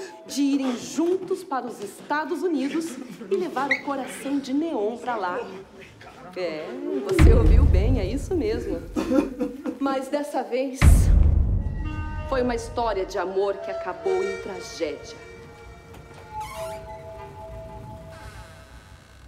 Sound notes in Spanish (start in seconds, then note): 8.9 llorar; 10.8 estallido